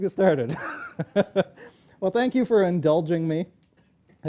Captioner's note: laughter